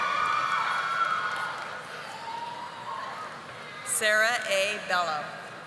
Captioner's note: audience applauding